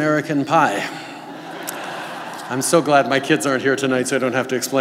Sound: laughter

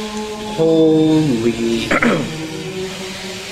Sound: clears throat

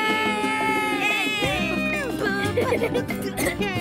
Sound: laughs

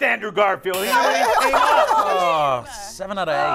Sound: group grunting

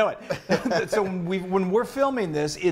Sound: laughing

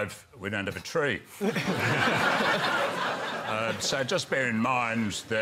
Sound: laughter

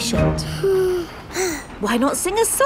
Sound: both sigh

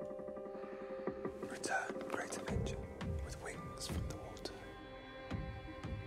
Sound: whispers

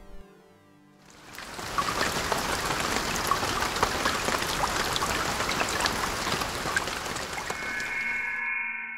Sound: rain falling

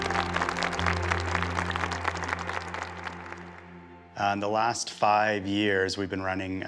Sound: applause

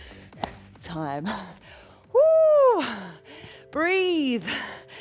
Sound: relaxing music; exclaiming

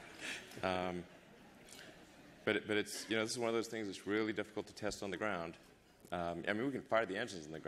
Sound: laughter

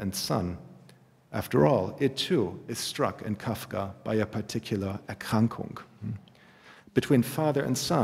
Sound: german

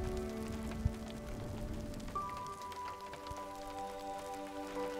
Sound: thunder crashes; rain pattering

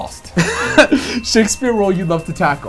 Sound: bell dings

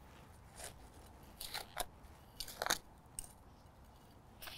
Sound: tool scraping

